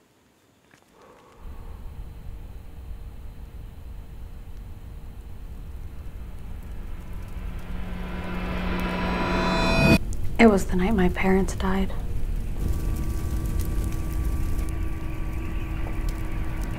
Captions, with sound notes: (eerie sounds) - It was the night my parents died. (fire crackles)